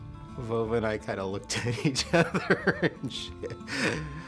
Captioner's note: laughter